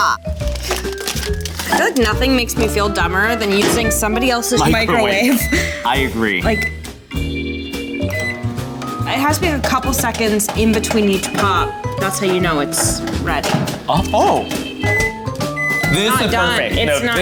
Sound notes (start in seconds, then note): 13.7 popcorn pops; 15.4 microwave beeps